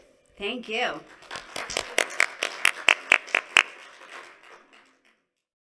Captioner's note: applause